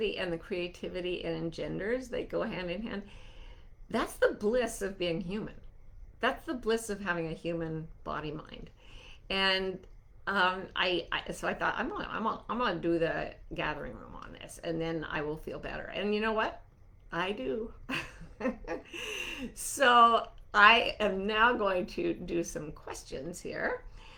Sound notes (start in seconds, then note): 17.8 chuckling